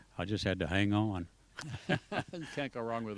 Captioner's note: laughs